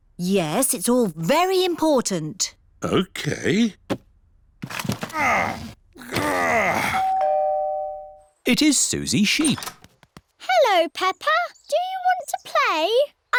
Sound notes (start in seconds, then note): 5.0 groans; 6.9 doorbell rings